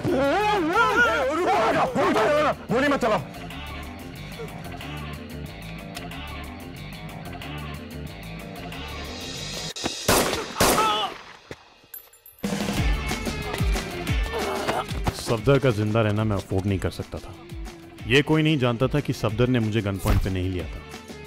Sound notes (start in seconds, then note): 10.0 gunshots; 14.3 screams